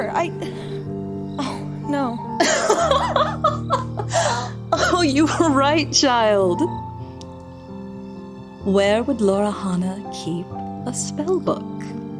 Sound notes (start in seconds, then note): 2.4 laughing